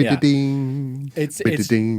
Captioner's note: imitates guitar